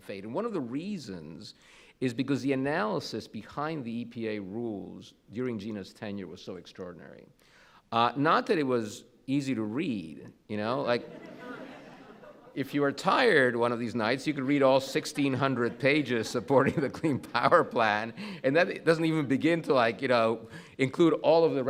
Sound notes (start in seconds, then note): 11.0 audience laughs